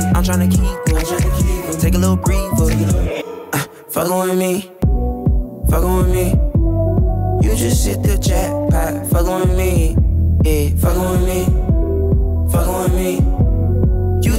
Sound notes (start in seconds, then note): 3.3 atmosphere warbles